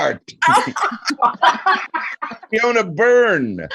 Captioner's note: laughing